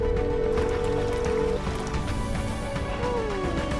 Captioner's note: phone dialing